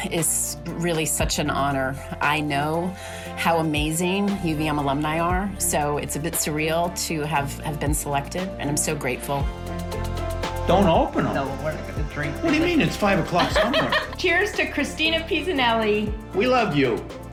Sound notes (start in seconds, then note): 13.3 laughs